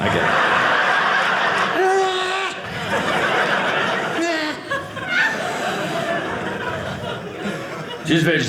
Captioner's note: audience laughing